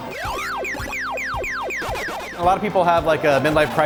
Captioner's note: video game sound effects